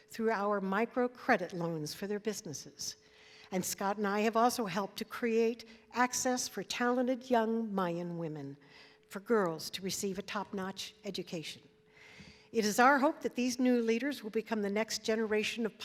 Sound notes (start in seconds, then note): none